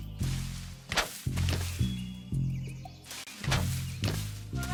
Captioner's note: jumps whooshing